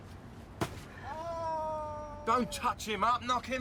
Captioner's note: traffic warden groans